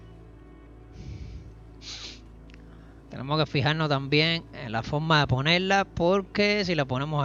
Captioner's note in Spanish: resoplido